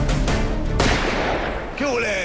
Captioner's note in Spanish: Disparo